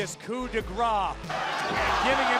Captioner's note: crowd cheering